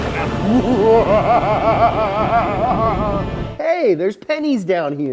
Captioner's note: evil laugh; dramatic music